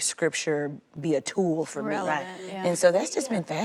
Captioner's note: agreeing mumbles